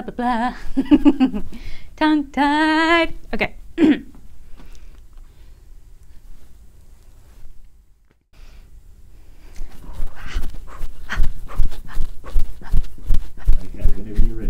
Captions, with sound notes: Blah, bah, blah...[Giggle] Tongue-tied! Ok! [clears throat] [breathing in and out] who ha who ha who ha